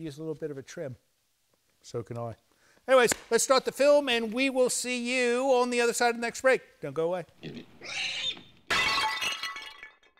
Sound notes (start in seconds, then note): 7.5 a series of comedic sound effects